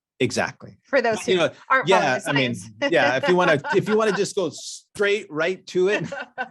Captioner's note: chuckles